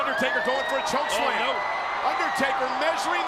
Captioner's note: crowd shouting